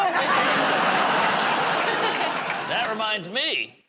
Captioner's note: laughter